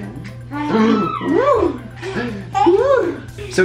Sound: baby laughing

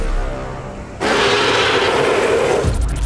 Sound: predator yell

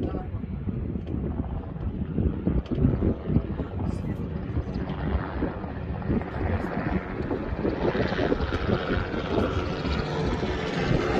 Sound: helicopter sound

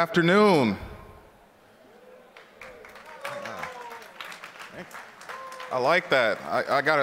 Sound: applause

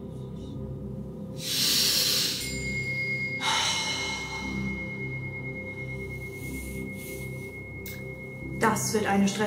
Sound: sniffing incense, chime rings, exhales

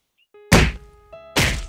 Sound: smash!

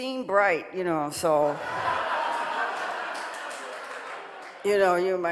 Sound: audience laughing

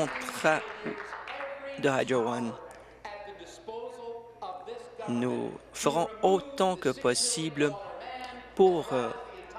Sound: applause

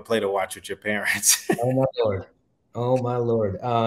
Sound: chuckles

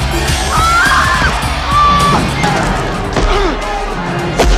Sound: screaming!

